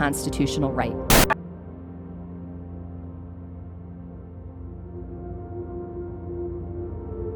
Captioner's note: slow solemn music; static crackling